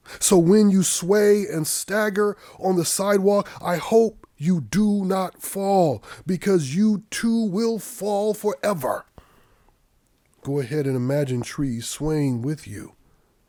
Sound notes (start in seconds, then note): none